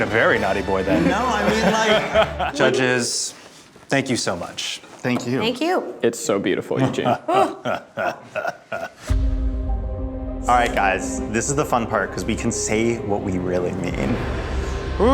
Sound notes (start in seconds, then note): 7.0 laughing menacingly